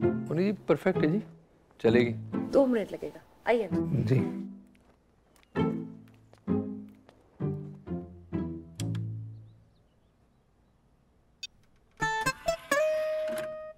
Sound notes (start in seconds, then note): 4.4 footsteps